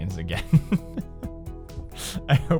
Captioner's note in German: lacht